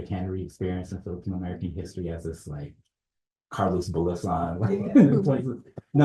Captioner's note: chuckles